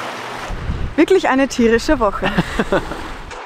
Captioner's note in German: lacht